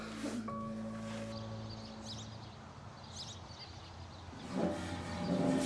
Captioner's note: birds chirping; metal chair being dragged across the floor